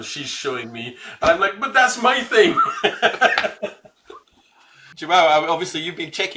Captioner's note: laughs